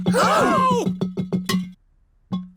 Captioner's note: all gasp